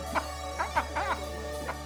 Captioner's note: laughing continues